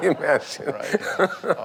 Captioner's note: laugh